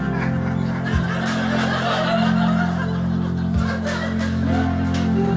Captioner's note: audience laughing